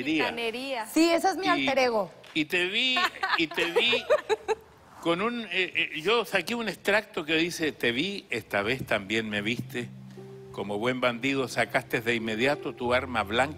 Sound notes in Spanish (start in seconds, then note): 5.5 Risas